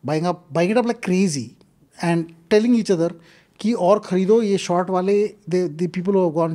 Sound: speaks in Hindi

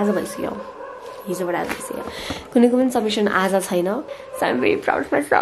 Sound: the dogs barking😭

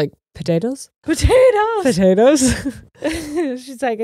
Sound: both laughing

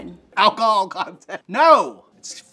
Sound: laughs

